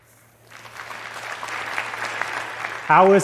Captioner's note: applause